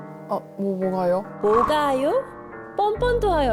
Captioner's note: angry sound effect